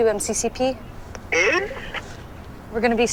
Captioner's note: distorted squawk